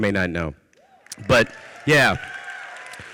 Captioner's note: audience cheers